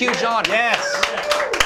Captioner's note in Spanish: aplausos